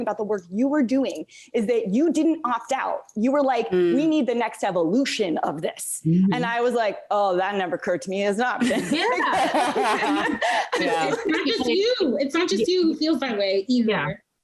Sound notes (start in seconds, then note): 8.6 laughing